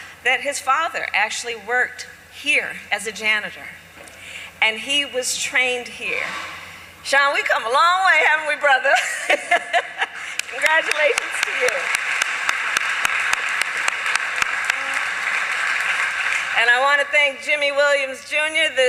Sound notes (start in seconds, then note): 8.8 laughs; 12.5 applause